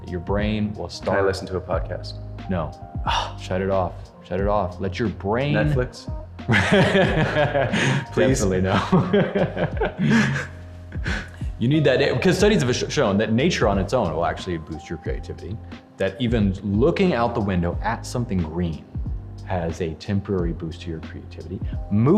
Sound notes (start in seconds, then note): 6.5 laughing; 8.7 both chuckling